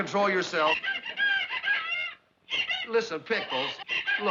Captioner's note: pickles crying on phone